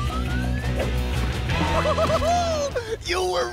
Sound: cheering

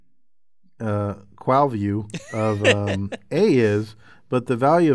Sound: laugh

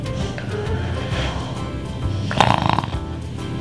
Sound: snoring

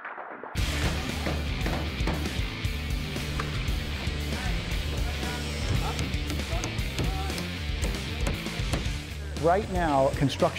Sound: hammering noises

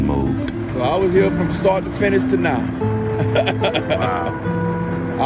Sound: laughs

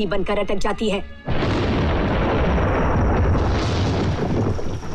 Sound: thunder crashing

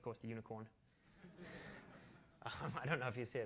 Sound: laughter

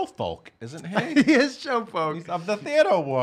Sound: laughing

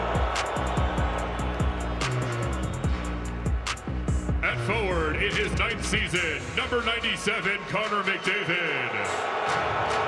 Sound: crowd noise

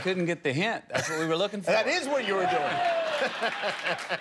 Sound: laughter

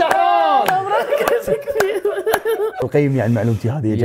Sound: laughs

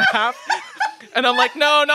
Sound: laughs

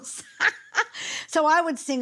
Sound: laughing

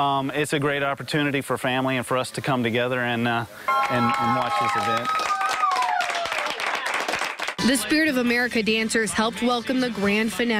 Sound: cheers and applause

